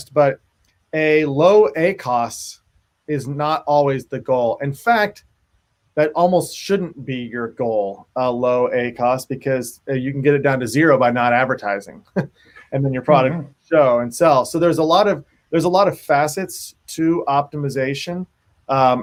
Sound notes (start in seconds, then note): 12.0 laughs; 12.7 voice cuts out